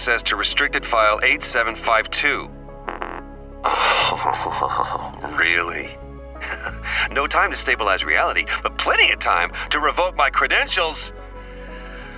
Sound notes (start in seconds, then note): 2.9 angry beep; 3.7 chuckles mirthlessly